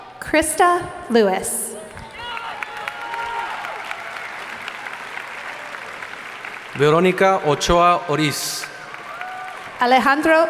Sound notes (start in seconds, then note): 1.9 audience applauding